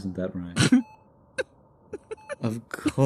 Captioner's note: coughing Laughter